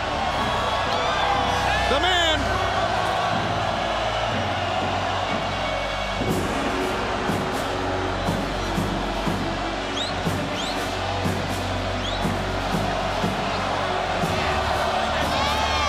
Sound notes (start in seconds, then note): 0.1 crowd cheering; 3.2 crowd cheering continues; 12.1 crowd cheering continues